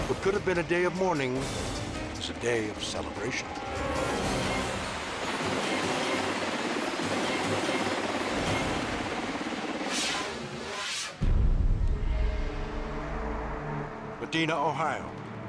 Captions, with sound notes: What could have been a day of mourning is a day of celebration. (frantic orchestral music) (fast whooshing) Medina, Ohio.